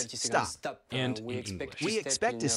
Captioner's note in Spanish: habla en inglés